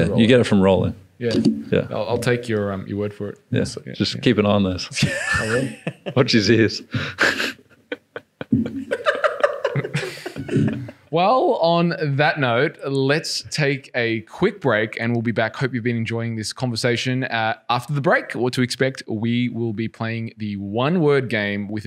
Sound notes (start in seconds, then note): 4.9 laughing